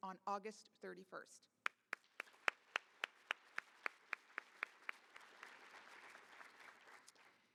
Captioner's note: applause